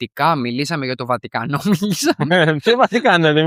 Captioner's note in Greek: γέλια